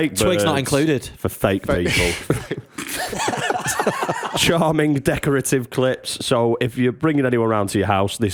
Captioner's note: laughter